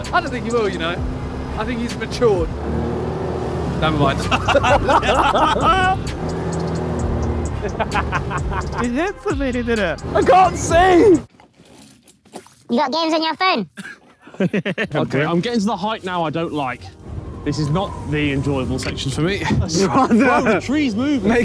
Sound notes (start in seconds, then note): 4.0 Simon and Josh laughing; 7.5 Ethan laughing; 13.9 chuckles